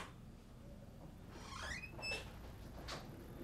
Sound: door creaking

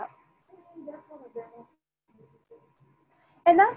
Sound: student speaking faintly

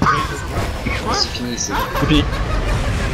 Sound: laughs

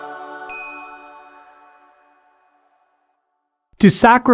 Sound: bells shimmer; bell dings

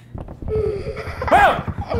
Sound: child laughing

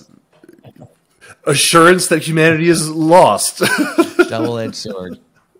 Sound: laughing

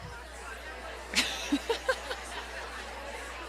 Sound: laughs

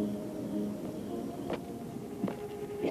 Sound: feet crunching pavement

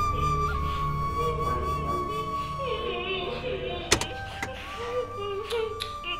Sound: Chinni is crying

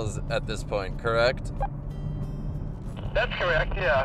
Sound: beep

